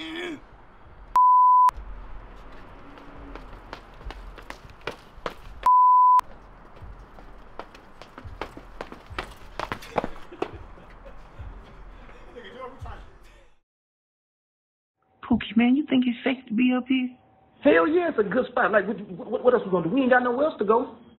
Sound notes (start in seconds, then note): 0.1 grunts; 1.1 beeps; 3.2 feet thudding; 5.6 beeps; 6.7 feet thudding; 10.9 speaking away from mic